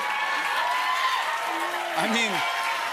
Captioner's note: cheers and applause